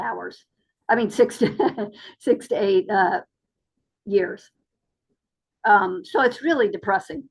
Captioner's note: laughs